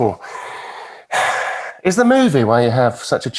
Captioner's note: sighing